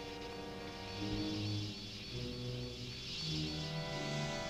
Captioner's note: muffled wasps buzzing